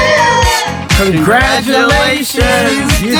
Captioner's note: cheering